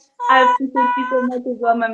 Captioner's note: awes